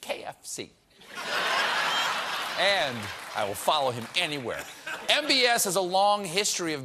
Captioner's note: laughter